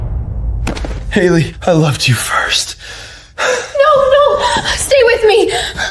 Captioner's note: thunder rumbling